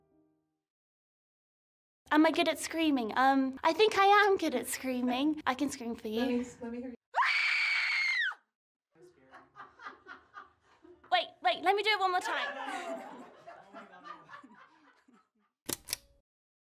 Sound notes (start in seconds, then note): 9.0 laughter; 9.4 screams; 15.5 laughter